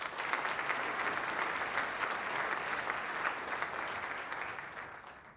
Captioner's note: applause